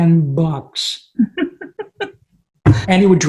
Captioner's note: laughing